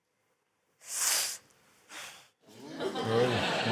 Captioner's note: breathes sharply